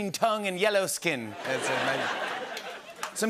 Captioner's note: Irish accent; laughter